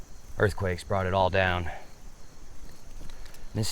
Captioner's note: insects chittering